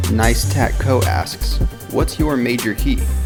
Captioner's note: voiceover